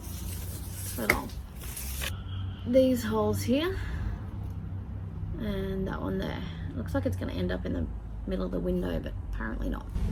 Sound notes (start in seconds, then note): none